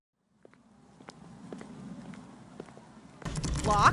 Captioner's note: a door knob jostles. Then, a door knob jostles again, harder and frantic